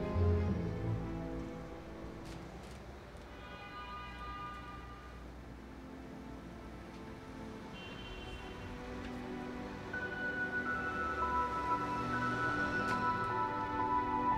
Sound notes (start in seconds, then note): 3.2 traffic honking; 9.2 dramatic music